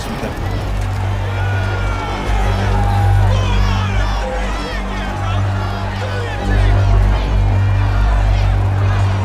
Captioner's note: loud chanting